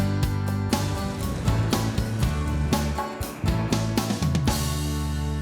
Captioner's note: water splashing